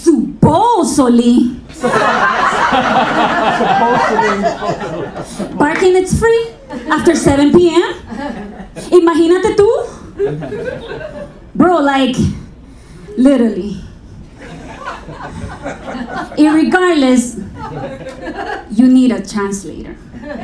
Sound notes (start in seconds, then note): 0.1 audience laughing; 8.8 speaking in foreign language